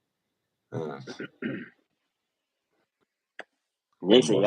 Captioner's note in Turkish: boğazını temizler